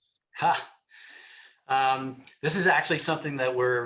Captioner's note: laughs